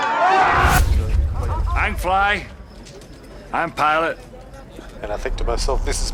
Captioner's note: passengers screaming in fear; slurred